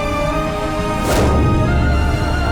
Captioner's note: stomping